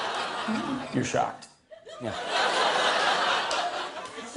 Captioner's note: laughter